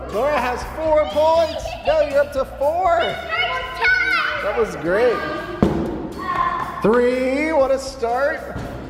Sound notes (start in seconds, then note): 0.0 all cheering; 1.3 cheering loudly; 5.5 ball bouncing; 8.5 ball bouncing